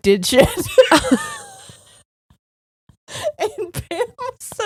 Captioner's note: both laughing